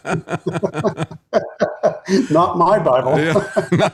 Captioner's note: laughing